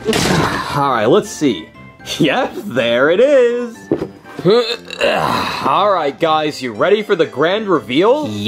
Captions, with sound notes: All right, let's see. Yep, there it is. (grunts) All right guys, you ready for the grand reveal?